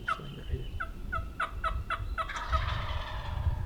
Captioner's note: turkey calls; turkey gobbles